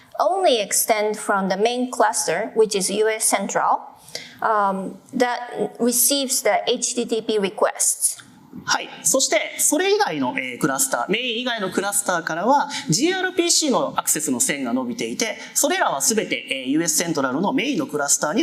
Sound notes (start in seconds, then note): 9.6 speaking japanese